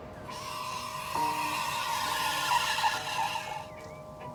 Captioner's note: squealing